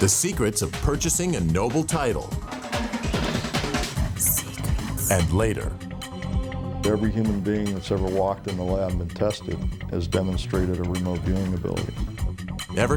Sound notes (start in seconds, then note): 2.8 suspenseful music; 4.1 ghostly Female Voice